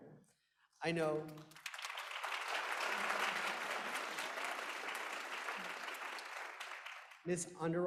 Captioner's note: applause